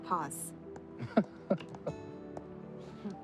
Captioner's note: laughing